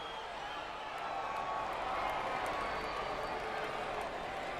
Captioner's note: crowd cheering